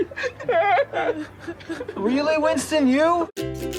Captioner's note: sobbing